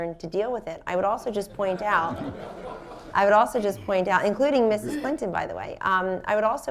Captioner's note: laughter